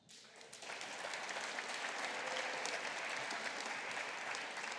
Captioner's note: audience applauding